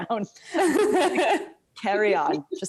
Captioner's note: laughing